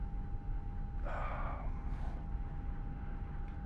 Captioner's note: sighs